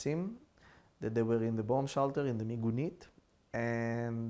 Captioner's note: hebrew